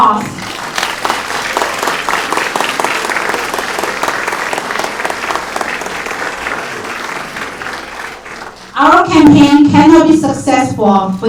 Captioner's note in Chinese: 掌声